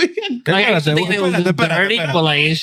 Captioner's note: speaking In Foreign Language